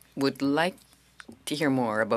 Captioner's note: speaking French